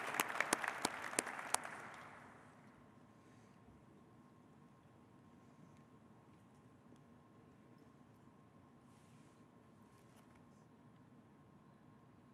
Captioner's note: applause